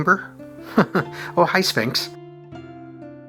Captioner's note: chuckles